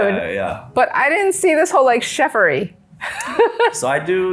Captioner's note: laughs